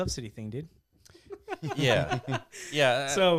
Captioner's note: laughing